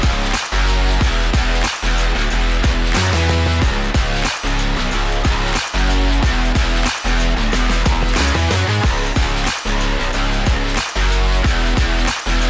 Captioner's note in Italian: Applauso